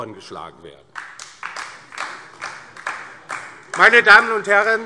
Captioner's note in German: Beifall DIE LINKE